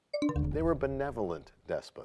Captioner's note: bell chimes, time expires